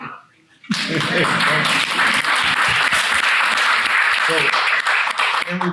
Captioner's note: attendees clapping; laughing